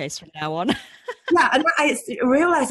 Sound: laughs

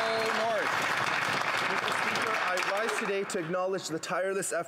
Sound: applause

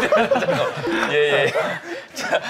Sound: haha

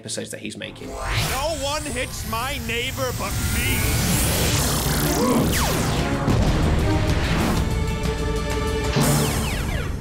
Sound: explosions

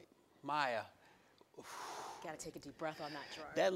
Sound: air blowing out

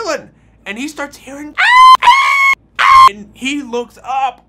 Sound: screams

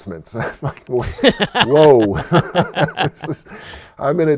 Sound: laughs

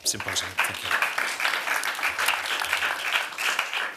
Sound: applause

